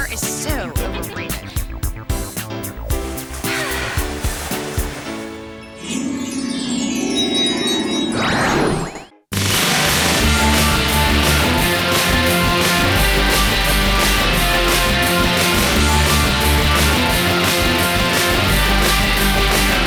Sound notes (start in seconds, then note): 4.5 sighs; 7.6 chimes